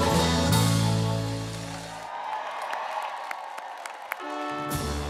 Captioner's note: group applauding; uplifting music